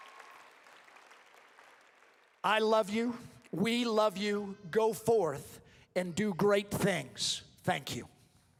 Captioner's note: applause